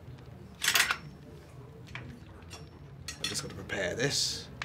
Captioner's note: metallic clinking